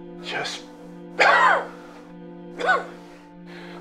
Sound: coughs

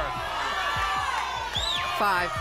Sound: audience shouting numbers

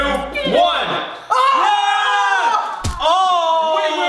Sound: screams

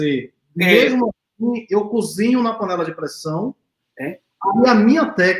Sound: speaks portuguese

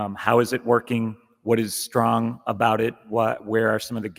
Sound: none

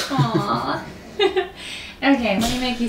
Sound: emma giggles

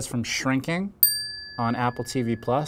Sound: bell dings

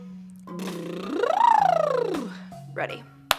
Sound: buzzing lips

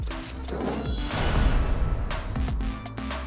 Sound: whoosh

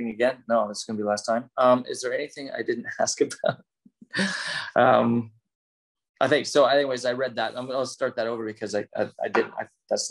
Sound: laughs

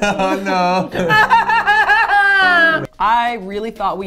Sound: crying

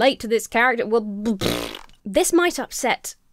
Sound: blows raspberry

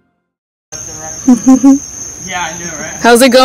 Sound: insects chirping; chuckles

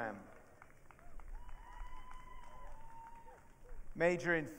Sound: audience cheering

